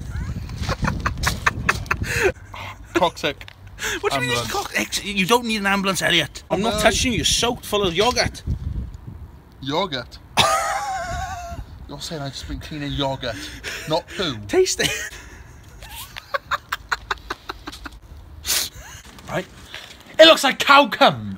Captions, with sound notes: (laughing) Toxic! ambulance You don't need an ambulance, Elliot I'm not touching you! you're soaked full of yoghurt yoghurt? (laughing) You're saying I've just been cleaning yoghurt. Not poo? Taste it! (laughing) It looks like cow cum!